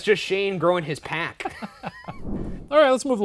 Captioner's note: laughing